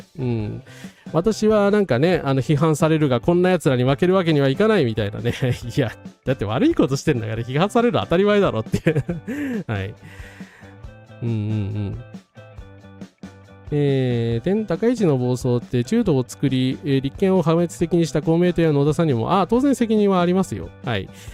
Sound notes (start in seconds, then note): 8.8 laughs